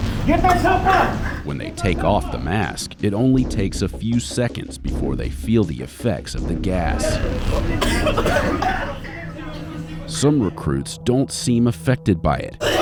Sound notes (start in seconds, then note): 7.0 coughing